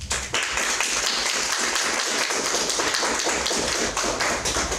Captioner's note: audience applauds